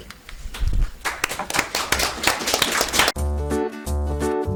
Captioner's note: audience applauds; light upbeat music